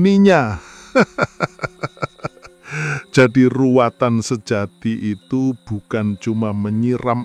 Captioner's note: laughs